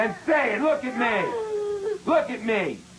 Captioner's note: child whimpers; sobbing